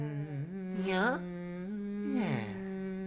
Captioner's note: humming